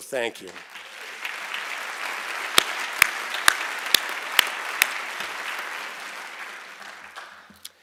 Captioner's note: applause